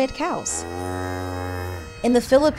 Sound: moos

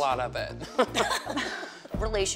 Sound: all laugh

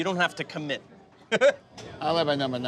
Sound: laughs

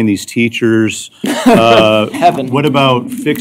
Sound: laughter

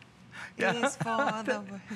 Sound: laughter

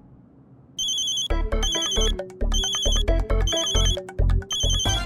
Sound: mobile phone chimes; comical music

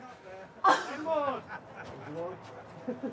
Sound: off-screen laughter

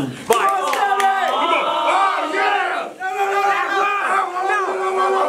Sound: all yelling

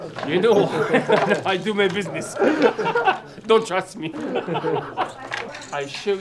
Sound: laughs

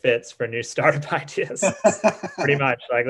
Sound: laughs

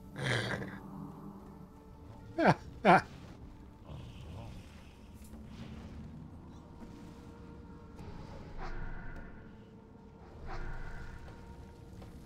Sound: laughs

